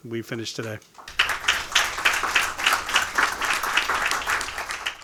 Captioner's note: audience applauding